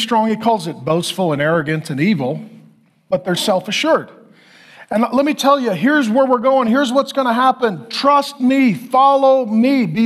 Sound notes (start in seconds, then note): none